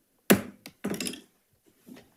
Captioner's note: gavel taps